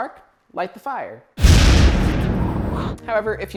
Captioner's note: fire SFX